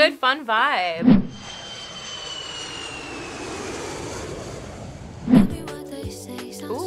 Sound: airplane engine roars

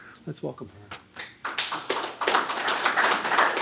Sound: applause

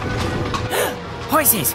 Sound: gasp

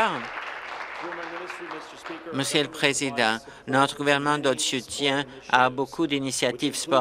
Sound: applause

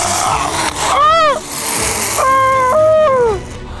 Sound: Lasizwe screaming

